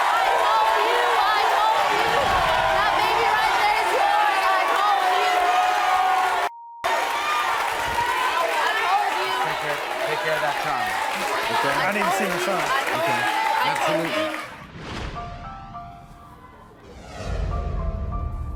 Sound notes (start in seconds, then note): 5.6 audience screaming; 14.6 dramatic music